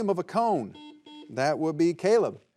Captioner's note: buzzer buzzing